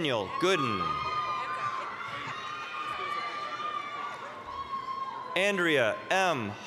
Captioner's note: applause, cheering